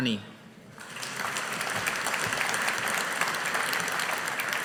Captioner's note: audience applauding